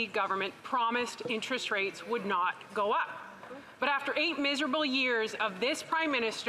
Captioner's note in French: voix de l'interprète